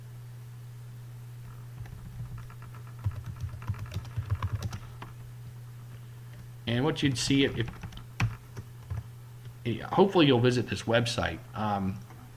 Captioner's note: typing